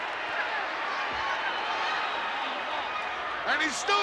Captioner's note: crowd cheers